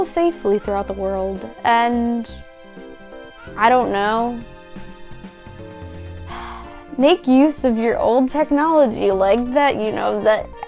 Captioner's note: sigh